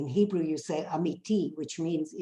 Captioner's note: speaks in foreign language